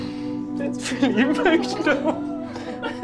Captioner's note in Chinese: 哽咽